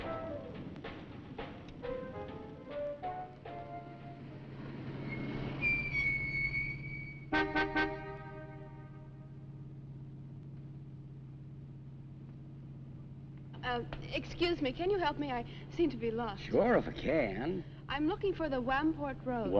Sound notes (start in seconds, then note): 5.4 brakes squeaking; 7.6 horn honking